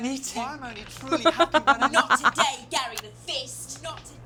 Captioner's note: laughs